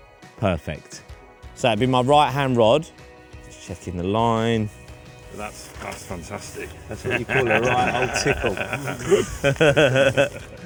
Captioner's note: laughs